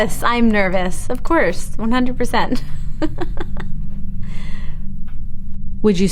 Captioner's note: laughs